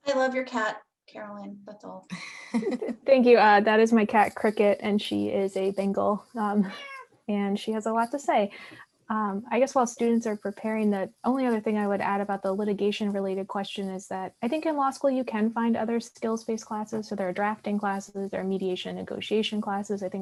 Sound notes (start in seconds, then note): 2.2 laughs; 6.7 cat meows